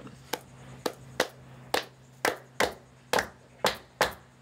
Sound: rhythmic clapping

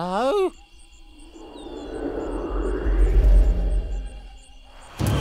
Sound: wind blowing

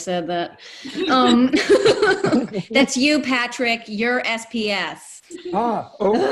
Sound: everyone laughing

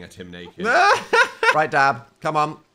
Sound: laughs

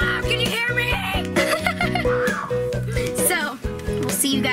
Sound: laughs

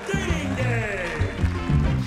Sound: applause

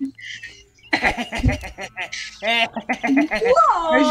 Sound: nice guy laughter

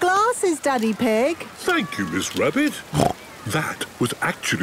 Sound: snorts

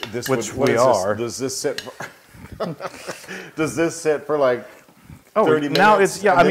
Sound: laugh

